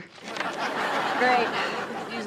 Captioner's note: audience laughs